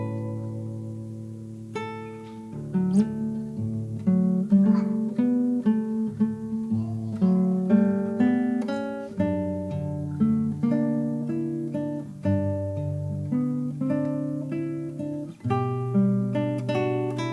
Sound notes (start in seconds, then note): 0.2 soft music; 2.6 baby cooing; 5.1 soft guitar music